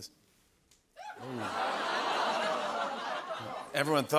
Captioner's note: audience "Oohs"